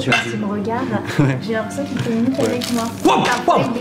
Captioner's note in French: ils discutent